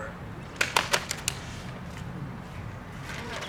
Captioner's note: clapping